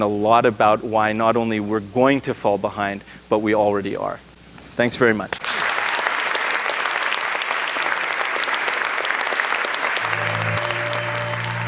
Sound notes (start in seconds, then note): 5.4 applause